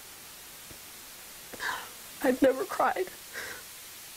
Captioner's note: breath